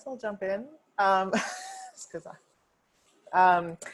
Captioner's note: chuckling